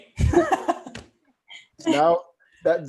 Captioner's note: laughs